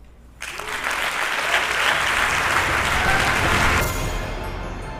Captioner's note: applause